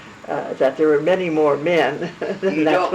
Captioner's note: laugh